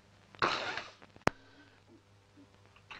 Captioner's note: crying